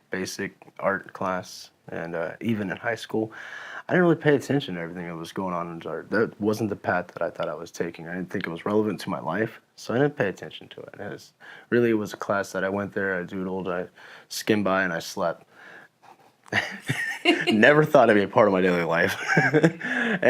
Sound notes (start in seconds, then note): 16.5 laughing